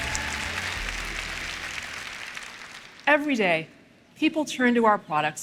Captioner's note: applause